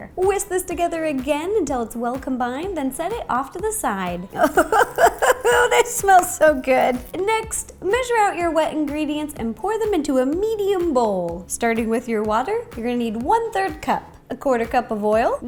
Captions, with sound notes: Whisk this together again until it's well combined then set it off to the side! [Laugh] This smells so good! Next, measure out your wet ingredients and pour them into a medium bowl. Starting with your water, you're gonna need 1/3 CUP. ... 1/4 CUP of Oil.